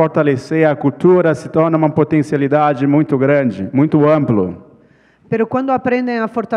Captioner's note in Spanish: ponente habla en portugués